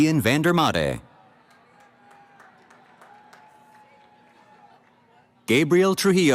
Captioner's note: cheering